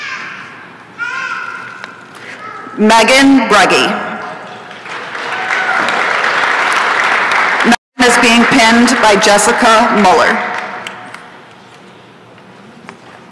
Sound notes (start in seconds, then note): 4.7 applause and cheering; 10.8 applause